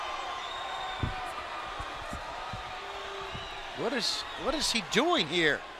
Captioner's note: crowd cheering